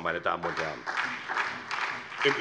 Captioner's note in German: Beifall SPD